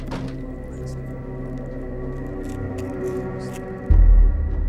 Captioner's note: Andrew whispers